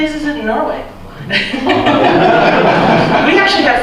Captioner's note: laughter